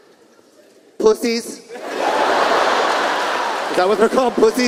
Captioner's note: audience laughing